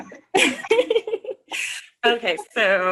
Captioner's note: giggles